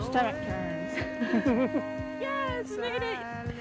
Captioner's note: riders laughing